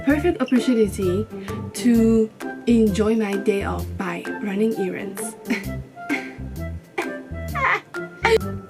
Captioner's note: crying